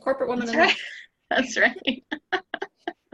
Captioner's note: laughing